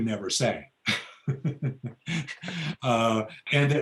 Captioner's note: laughs